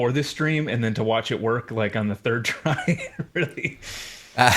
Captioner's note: chuckling; groans